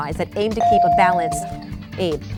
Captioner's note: bell dinging